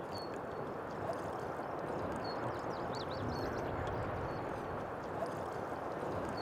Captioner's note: rippling water and birds chirping